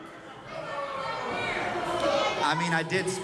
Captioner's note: crowd shouts